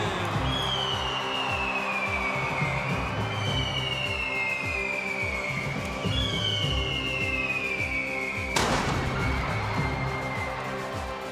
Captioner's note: crowd cheering